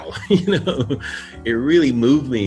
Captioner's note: chuckles